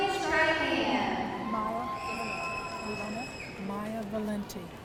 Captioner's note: audience cheering